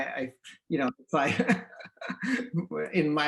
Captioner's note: laughs loudly